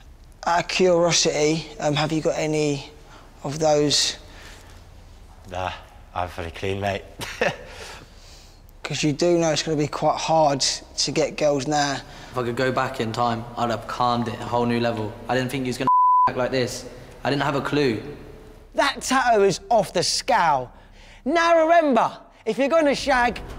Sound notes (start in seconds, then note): 7.1 laughs